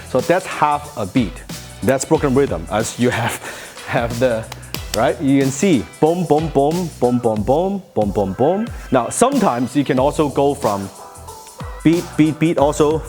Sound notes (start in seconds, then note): 3.0 laughing